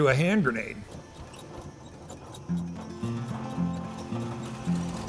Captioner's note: car engine starting